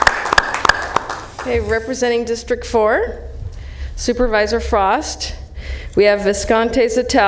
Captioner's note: applauding